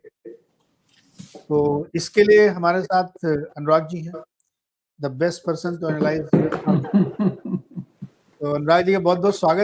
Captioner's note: laughter